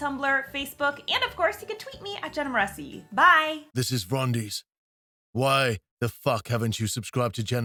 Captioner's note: rumbling Male Voice